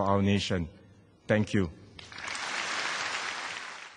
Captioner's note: applause